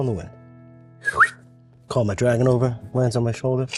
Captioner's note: whistles